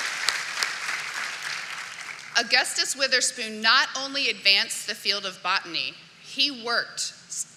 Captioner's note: cheering and applause